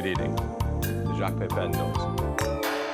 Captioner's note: glasses clink